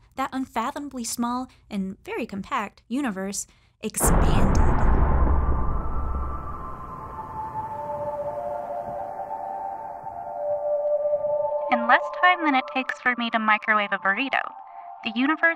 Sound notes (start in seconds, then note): 4.0 deep explosion sound; 5.7 ethereal music; 11.5 with some electrical distortion